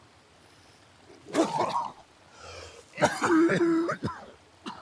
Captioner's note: Arawn coughing